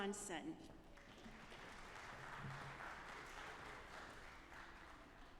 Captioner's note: audience applauding